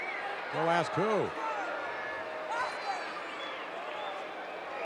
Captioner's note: audience cheering